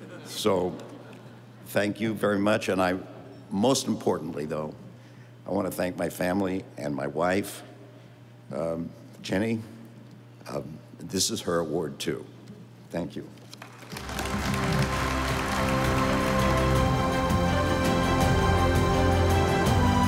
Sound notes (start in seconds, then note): 13.6 audience applauding; 13.6 stately music